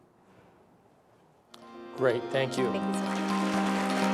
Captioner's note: applause